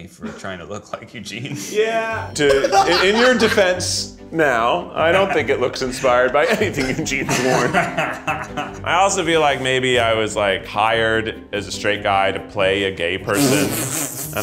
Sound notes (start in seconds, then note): 1.7 magical chiming; 2.4 Zach laughs; 7.8 Ned and Zach laugh; 13.4 Zach laughs